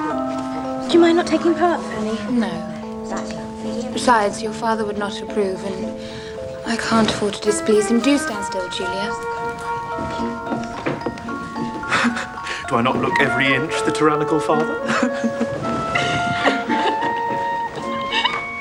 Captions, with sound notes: - Do you mind not taking part, Fanny? - No. Besides, your father would not approve and I can't afford to displease him. Do stand still, Julia. Do I not look every inch the tyrannical father? (Giggles)